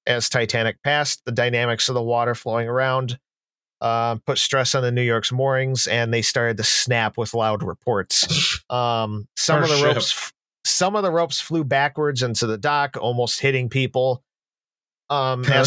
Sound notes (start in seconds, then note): 9.5 scoffs